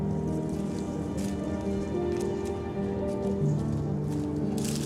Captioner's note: pastor speaking faintly